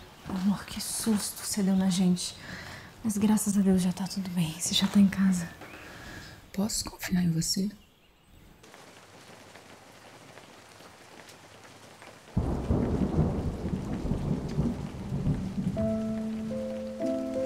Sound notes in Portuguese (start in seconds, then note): 9.6 som de chuva